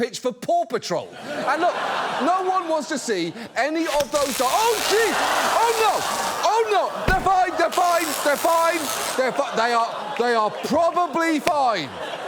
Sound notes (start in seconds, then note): 3.9 tasers buzzing; 6.2 audience laughs